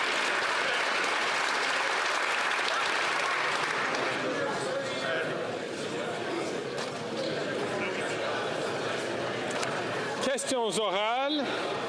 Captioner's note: applause